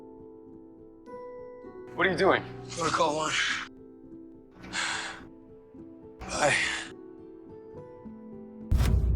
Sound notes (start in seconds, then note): 2.1 voiceover; 4.7 Trevor exhales